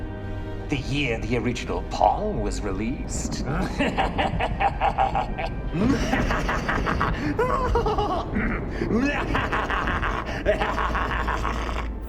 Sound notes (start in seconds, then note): 3.4 thunder rumbles; 3.5 laughs evilly; 5.7 laughs in high voice, clears throat; 8.8 laughs evilly